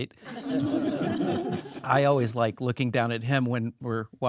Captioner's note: all laugh